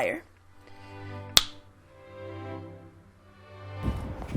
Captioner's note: fingers snapping